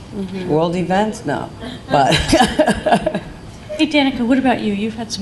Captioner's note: laughing